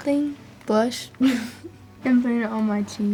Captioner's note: chuckles